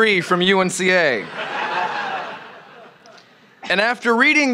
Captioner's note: laughter